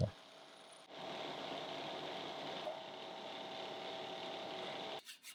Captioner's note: machine whirring